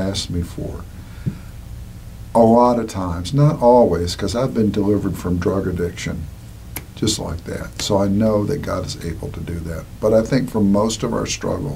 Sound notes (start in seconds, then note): 6.7 snaps fingers